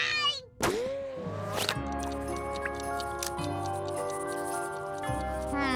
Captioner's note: Dishrag meows; gentle music; clock ticking